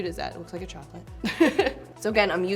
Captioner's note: laughs